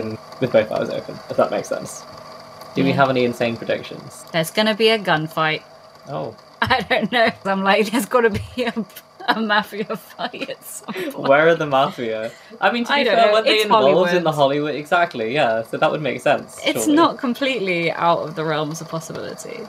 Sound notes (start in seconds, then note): 6.6 laughing